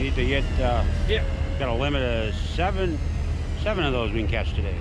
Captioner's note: boat engine idling